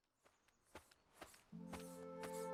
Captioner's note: footsteps crunching; light music